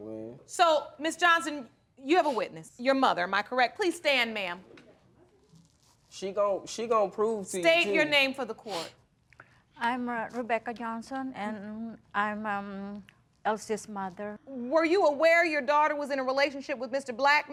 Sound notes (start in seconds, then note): none